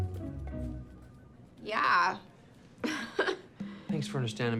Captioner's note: forced chuckle